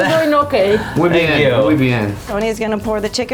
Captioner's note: speaks in Spanish